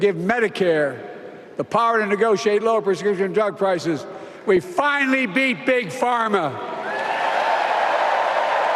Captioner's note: applause